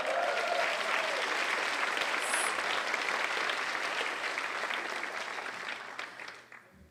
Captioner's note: applause